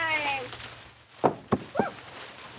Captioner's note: leaves rustling